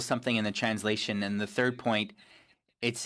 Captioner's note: speaking FRENCH